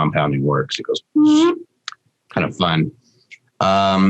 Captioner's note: makes a blowing sound